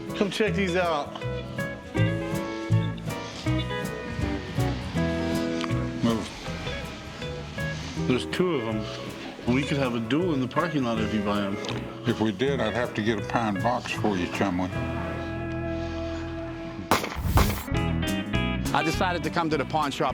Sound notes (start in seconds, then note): 16.9 gunshots